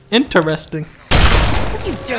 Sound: gunshot

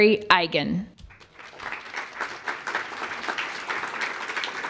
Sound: applause

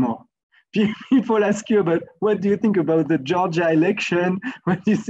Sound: laugh

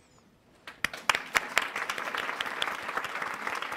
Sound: applause

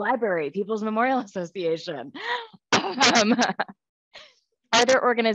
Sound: laughs

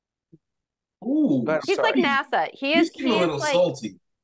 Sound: laughing

